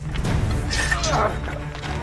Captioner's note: swords clash